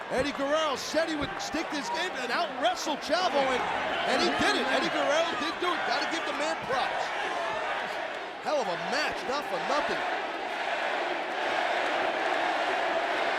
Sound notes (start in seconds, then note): 7.1 spectators cheering; 10.1 spectators chanting